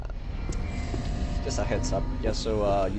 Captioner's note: scary_Sound.wav